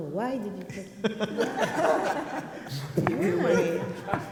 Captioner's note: people laugh